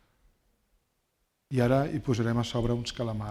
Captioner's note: speaking spanish